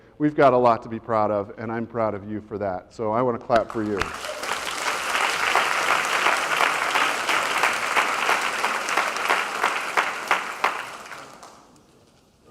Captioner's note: applause